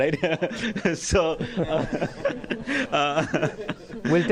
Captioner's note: laughter